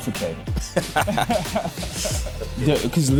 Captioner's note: laughing